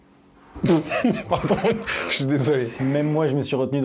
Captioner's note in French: rire